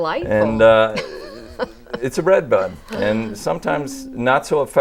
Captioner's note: laughing